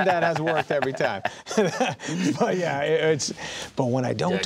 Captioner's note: laughing